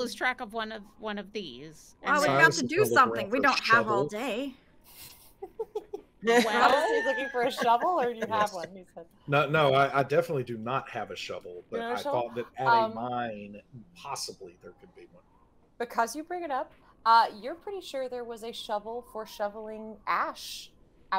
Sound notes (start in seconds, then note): 6.2 game Master chuckles